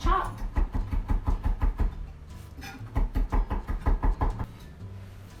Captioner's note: chopping thyme